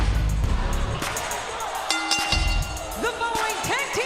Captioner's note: bell dings